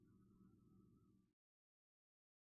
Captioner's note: none